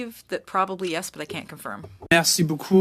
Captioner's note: speaking French